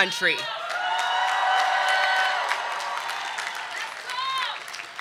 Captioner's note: audience cheering